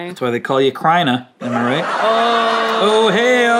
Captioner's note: audience laughing